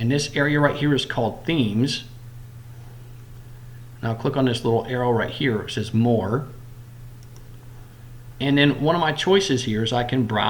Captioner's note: click